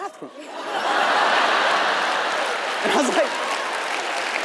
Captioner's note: audience laughs